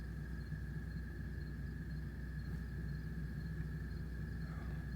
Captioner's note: crickets Chirping Continues